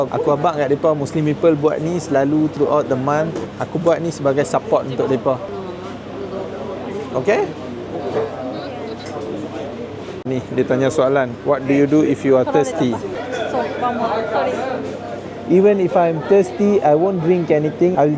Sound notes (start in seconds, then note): 13.4 speaking Japanese